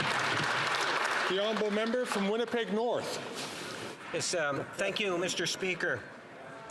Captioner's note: some Applause